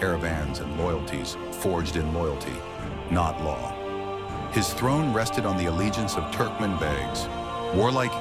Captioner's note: begs